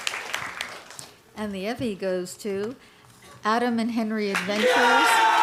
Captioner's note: applause